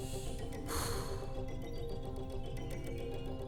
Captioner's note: sighs